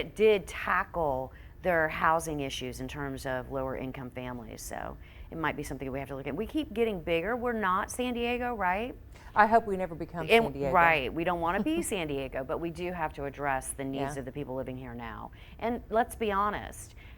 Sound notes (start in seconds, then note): 11.5 chuckles